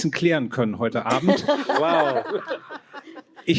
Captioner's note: laughter